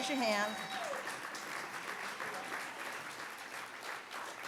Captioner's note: audience applauds